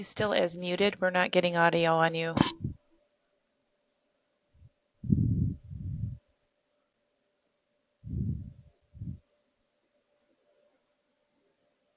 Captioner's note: long pause